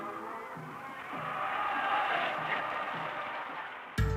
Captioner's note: cheering